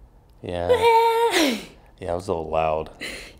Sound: laughing

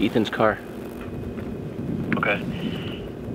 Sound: over phone

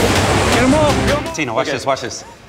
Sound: rock music; male Voice

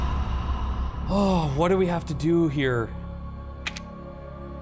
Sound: sighs

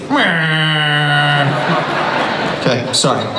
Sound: audience laughs

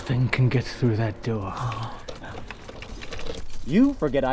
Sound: keys jingling

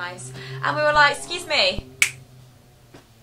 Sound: clicks

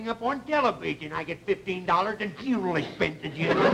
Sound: audience laughter

